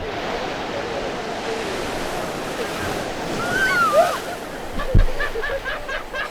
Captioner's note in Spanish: gritos emoción